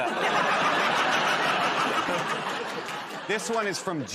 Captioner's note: laughter